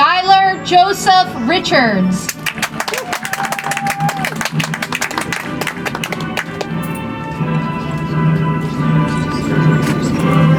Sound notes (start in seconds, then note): 6.0 audience applauds